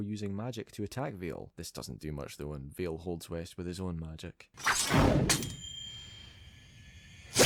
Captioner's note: stab